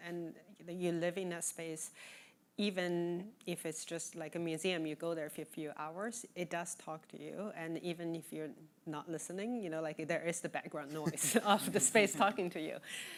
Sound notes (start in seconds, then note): 10.0 all laughing